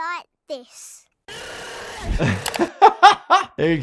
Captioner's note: character yells; doctor laughs